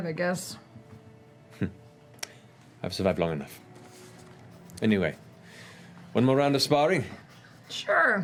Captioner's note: chuckles